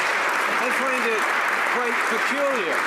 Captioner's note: some Applause